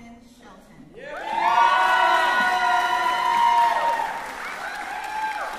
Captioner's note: cheering